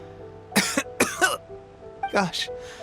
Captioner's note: cough